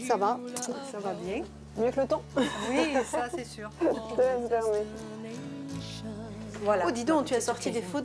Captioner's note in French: rires